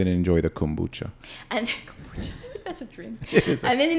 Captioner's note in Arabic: تضحك